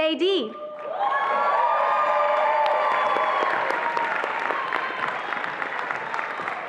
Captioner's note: attendees applauding and cheering